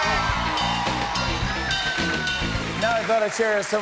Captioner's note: cheers and applause